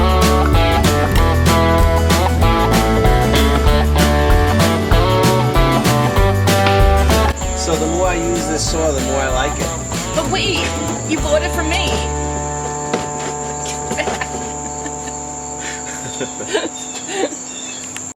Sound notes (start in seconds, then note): 5.6 background music; 15.9 laughing